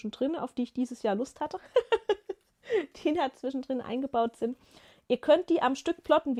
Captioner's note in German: gelächter